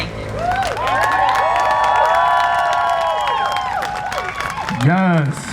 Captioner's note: crowd cheering and applauding